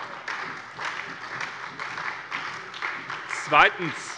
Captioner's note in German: Beifall bei der SPD